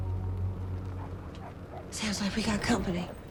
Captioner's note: dog barking in distance; car approaching